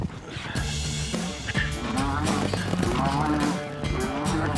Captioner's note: mooing